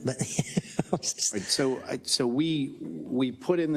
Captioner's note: laugh